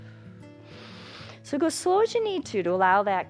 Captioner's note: inhales